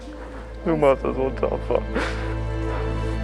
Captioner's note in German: schluchzt